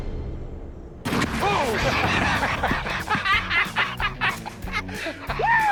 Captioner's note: laughing